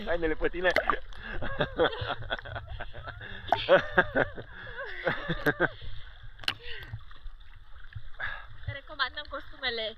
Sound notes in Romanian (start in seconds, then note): 1.2 Râsete